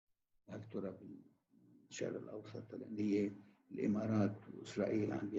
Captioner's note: speaking in foreign language